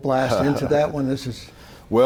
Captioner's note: laughing